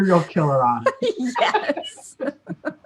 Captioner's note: laughter